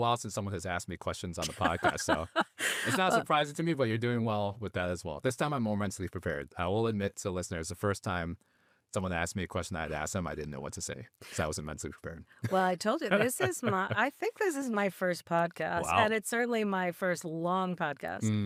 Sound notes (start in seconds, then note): 1.4 laughing; 13.0 laughing